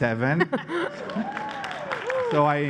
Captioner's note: laughter; applause